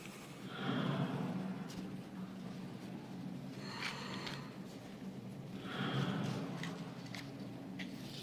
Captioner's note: slow breathing